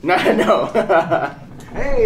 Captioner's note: laughing